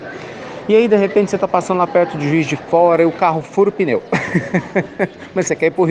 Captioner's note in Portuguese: Risos